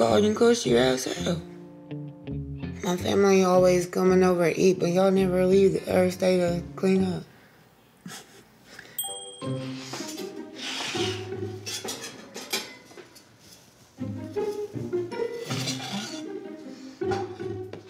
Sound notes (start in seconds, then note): 7.2 scoffs